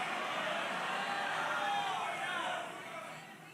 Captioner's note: applause